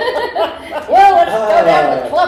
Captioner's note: laughter